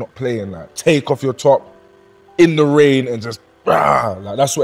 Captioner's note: growls